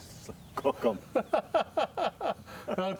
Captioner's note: laughter